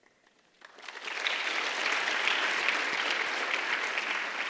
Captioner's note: audience applauds